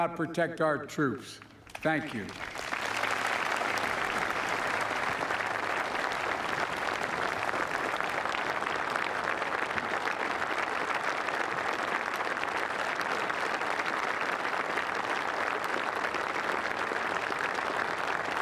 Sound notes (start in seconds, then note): 7.8 applause